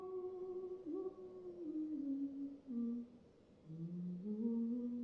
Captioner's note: continues humming